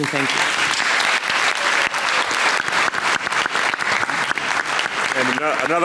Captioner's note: audience clapping